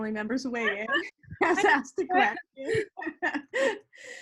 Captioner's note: both laughs